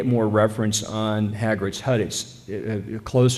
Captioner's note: none